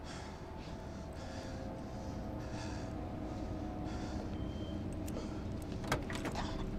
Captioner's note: Peter panting; tense music